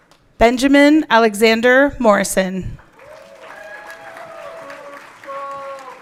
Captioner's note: everyone cheering